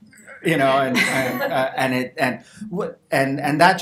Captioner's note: audience laughter